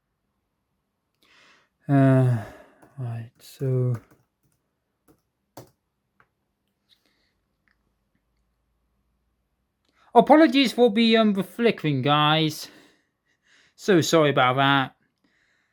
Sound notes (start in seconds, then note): 5.5 typing sounds